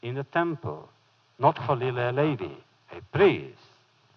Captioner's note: foreign language